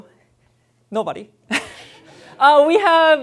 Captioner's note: laughter